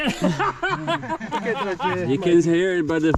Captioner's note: group laughing